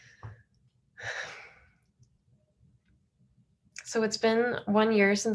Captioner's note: exhales sharply